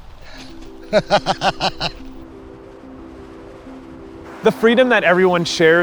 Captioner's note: laughing